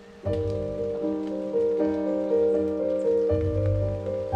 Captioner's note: raindrops